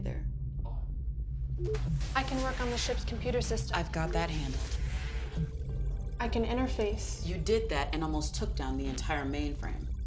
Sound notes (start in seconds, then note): 1.6 door beeps and whooshes; 3.5 computer trilling